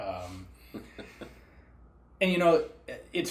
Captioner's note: chuckles